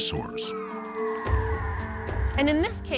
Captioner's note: screeching